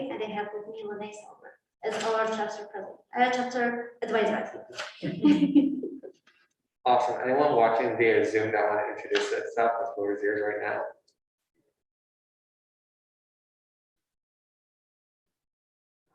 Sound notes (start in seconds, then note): 5.1 laughter